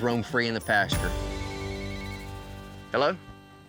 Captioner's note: cell phone rings